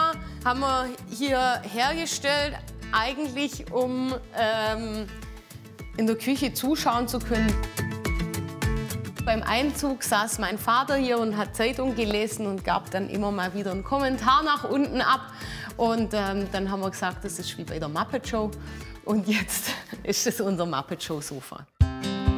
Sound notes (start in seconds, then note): 19.0 laughs